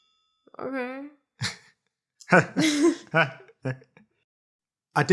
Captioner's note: both giggling